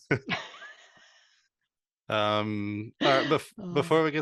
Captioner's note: laughs